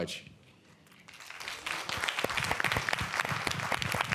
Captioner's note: applause